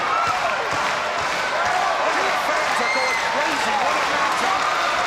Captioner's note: audience applauding